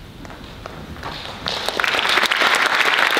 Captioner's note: applause